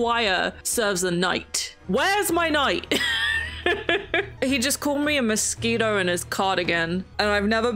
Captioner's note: laughs